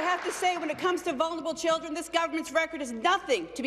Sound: applause

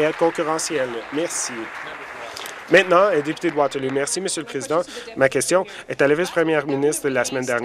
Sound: applause

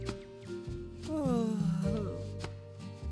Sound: Beast sighing

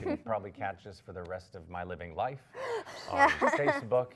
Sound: pleasant laughing

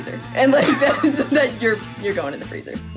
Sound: Honey Rose laughing

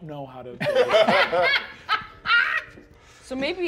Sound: all laughing

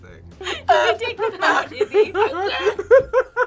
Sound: both laugh

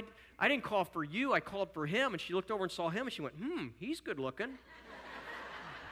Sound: audience laughter

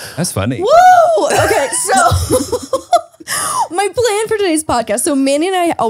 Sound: laughs

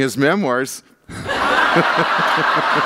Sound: laughter

